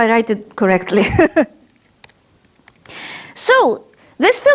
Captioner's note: she laughs